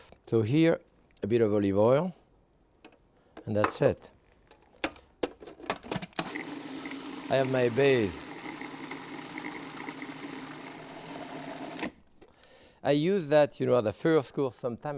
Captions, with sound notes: So here, a bit of olive oil. And that's it. (lid clattering) (processor whirring) I have my base. (processor whirring) (lid clicks) I use that as a first course sometime